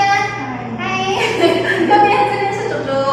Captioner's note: laughs